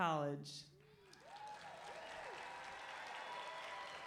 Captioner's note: clapping